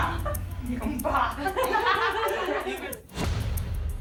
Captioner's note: laughter